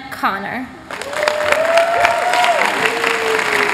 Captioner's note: applause